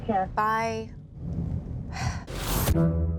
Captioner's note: sighs